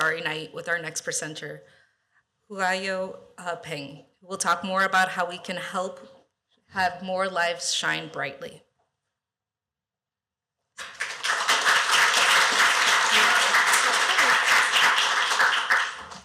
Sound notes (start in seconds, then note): 10.8 applause